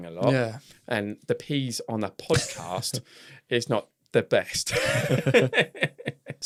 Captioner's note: laughs